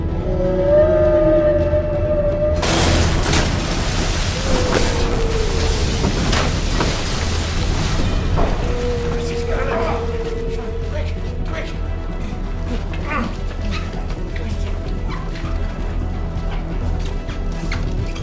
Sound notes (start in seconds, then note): 0.1 creature howling; 2.6 ceiling crashing; 2.6 water gushing; 4.3 creature howling; 12.5 suspenseful music; 12.6 both grunting